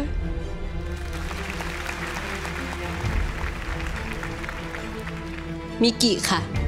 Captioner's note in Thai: ปรบมือ